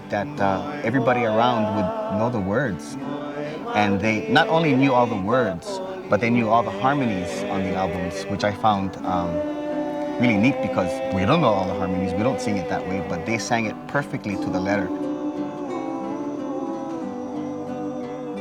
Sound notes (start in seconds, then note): 11.0 speaking in Hawaiian language